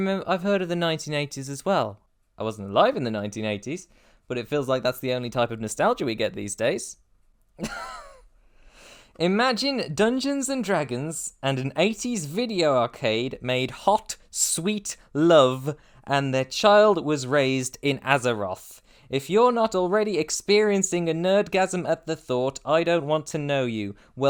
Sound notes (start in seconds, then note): 7.6 laugh